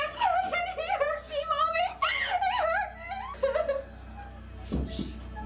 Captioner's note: crying; crying